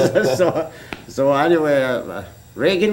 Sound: laughter

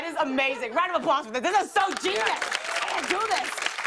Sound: applause

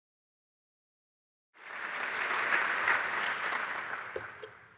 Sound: applause

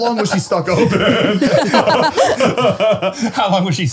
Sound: all laughs

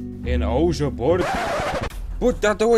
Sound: record Scratch

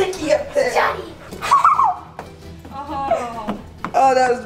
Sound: laughs

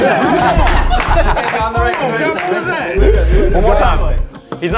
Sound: all laughing

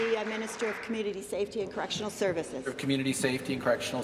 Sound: applause

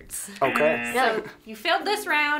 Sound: buzzer rings

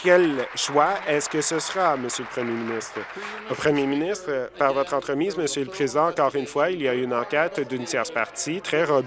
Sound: applause

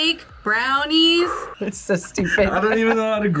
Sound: laughs

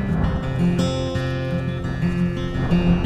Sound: sound of the wind

